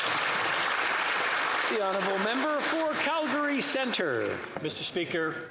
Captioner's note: applause